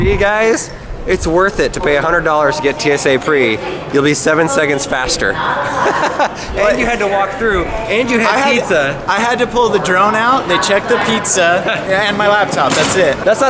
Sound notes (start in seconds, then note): 5.1 laughs